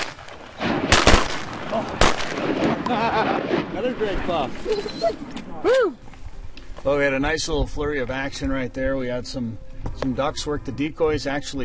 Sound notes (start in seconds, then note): 0.0 gunshots; 2.8 laughing